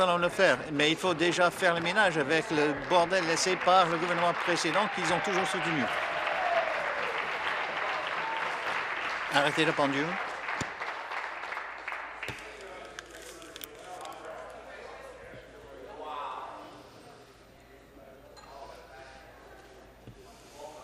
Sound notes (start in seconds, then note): 9.4 applause